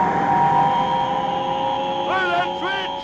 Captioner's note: buzzing noise